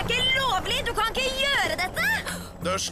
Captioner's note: gasps